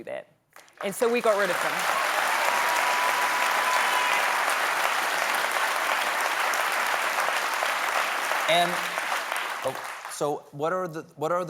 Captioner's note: applause